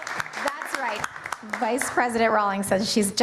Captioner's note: applause